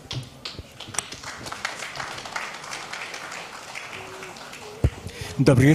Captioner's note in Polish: oklaski